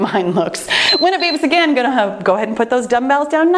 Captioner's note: timer beeping